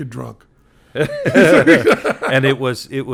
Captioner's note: Glenn and Penn laughing